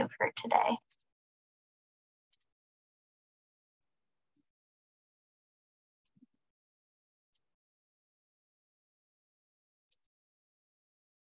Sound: silence

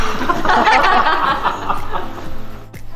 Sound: laughing

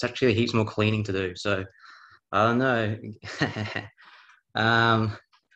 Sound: chuckling

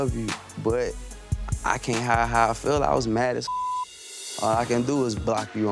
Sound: beep

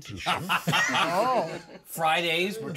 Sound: laughs

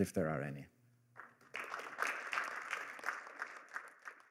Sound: applause

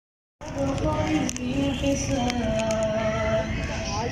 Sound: recitation in background

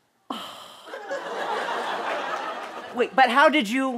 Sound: sighs

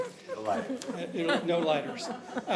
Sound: laughter

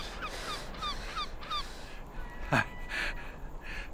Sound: bird cawing

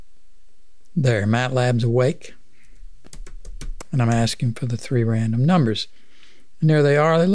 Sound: clicking

